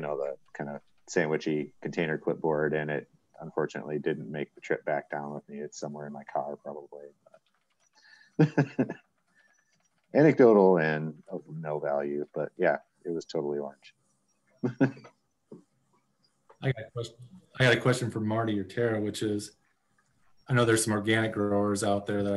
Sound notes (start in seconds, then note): 8.4 chuckling